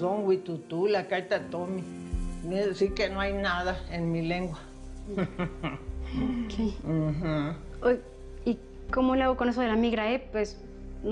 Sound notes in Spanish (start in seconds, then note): 0.8 Habla en lengua indígena; 6.6 Ríe